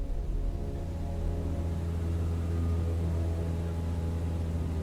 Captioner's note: plane rumbling